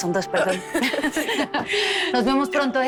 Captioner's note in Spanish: Risas